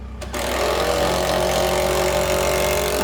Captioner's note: rattling